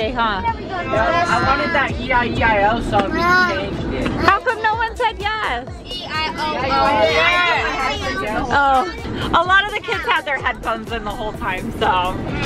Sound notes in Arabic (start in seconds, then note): 5.7 تمتمات الأطفال